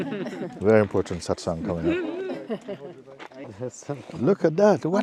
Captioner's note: laughter